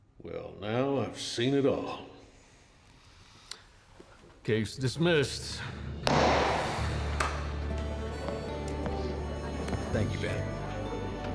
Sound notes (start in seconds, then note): 6.1 strikes gavel; 7.0 claps hands